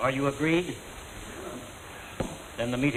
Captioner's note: murmurs